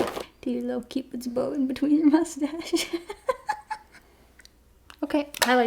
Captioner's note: laughs